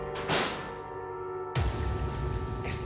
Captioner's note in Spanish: Portazo